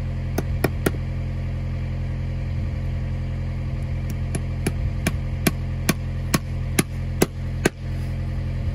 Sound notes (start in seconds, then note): 0.9 hammer whacking on the fixings